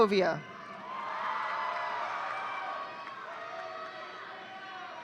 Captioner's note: audience cheering